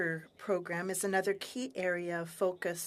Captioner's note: speaking french